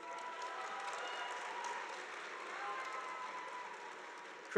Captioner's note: audience applauding